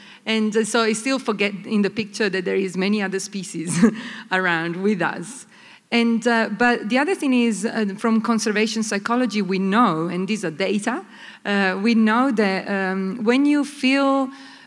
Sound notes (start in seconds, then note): none